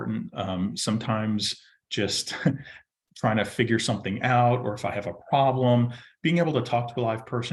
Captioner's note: chuckles